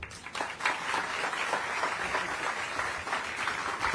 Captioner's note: applause